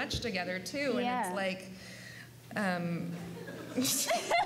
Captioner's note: both laugh